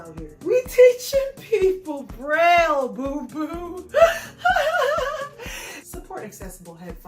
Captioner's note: laughs